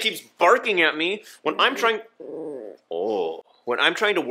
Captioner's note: growls